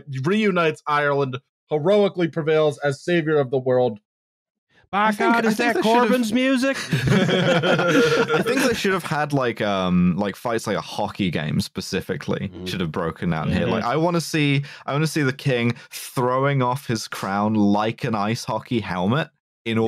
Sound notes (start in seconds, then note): 5.1 twangily; 7.2 laughter